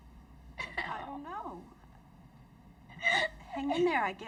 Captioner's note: crying